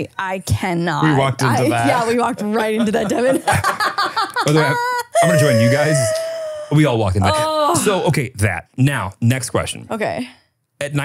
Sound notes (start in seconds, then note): 4.0 laughs